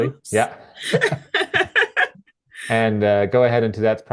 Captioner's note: laughing